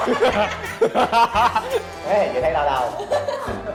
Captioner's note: laughing